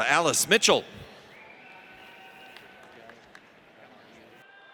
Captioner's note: audience applauds